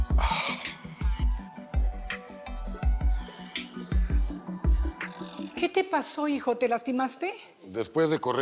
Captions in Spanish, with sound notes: [Quejido] - ¿QUE TE PASO, HIJO? ¿TE LASTIMASTE?